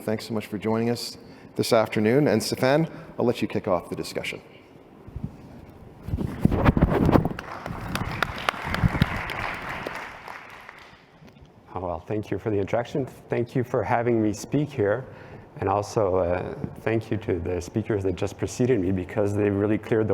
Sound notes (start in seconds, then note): 7.2 applause